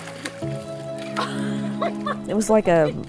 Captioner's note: laughter